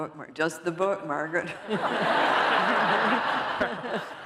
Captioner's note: laughter